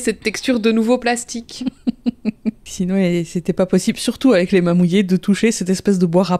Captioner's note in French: rire